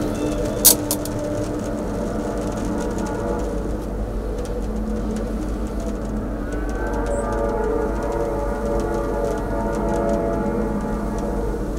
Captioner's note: sound of distant train whistle